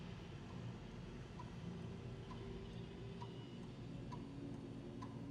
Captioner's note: rhythmic ticking sound